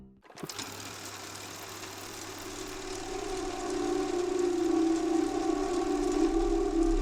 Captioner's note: film reel ticking; light dramatic music